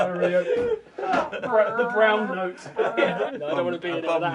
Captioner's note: laughter